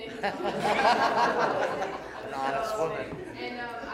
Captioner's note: laughter